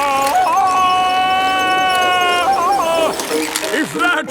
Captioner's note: yelling